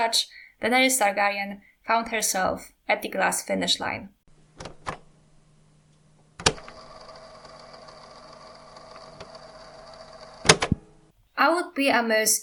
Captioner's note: cassette sound